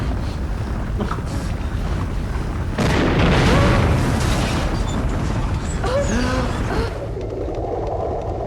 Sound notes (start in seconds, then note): 2.7 exploding